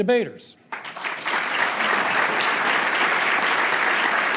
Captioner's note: crowd applauding